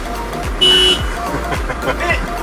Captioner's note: car horn; chuckles